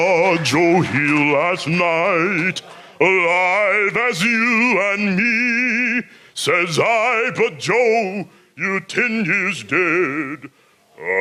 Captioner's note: applause